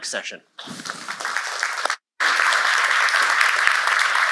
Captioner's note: applause